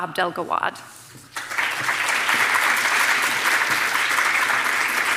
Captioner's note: audience applauding